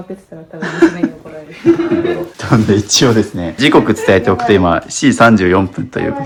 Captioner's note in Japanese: 笑い